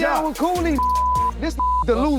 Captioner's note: beep